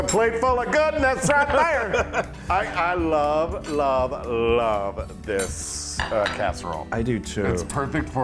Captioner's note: laugh